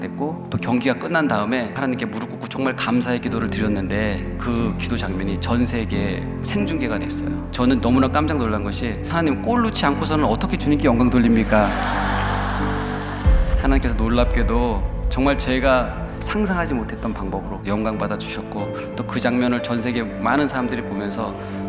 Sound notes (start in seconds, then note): 11.4 laughter